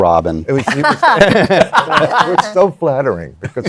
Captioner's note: laughter